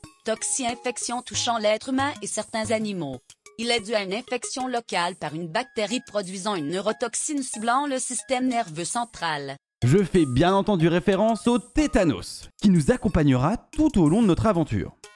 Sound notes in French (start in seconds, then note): 0.1 voix automatique féminine